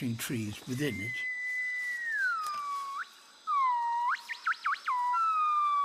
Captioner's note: high-pitched hooting